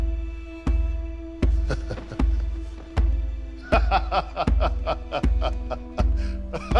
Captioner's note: laughing